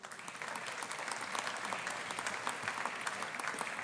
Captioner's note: audience applauding